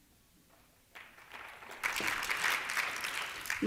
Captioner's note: applause